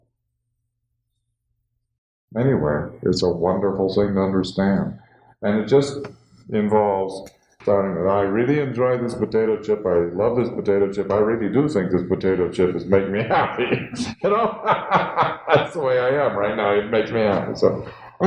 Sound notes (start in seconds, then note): 13.0 laughter